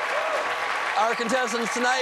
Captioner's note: cheers and applause